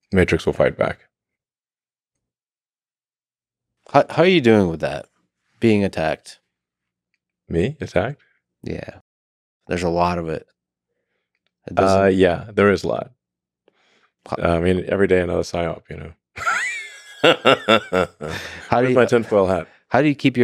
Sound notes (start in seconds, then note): 16.4 laughs